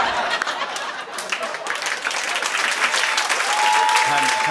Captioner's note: cheering and applause